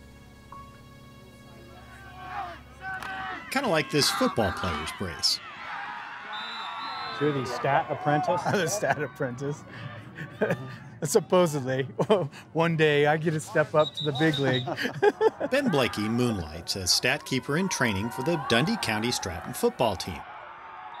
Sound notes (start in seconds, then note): 6.2 whistle blows